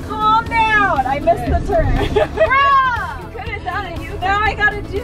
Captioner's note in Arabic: يضحك